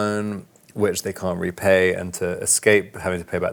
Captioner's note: munching away